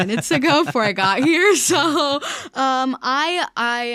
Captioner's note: laughing